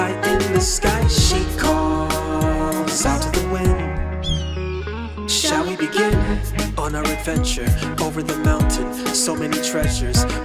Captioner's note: hawk call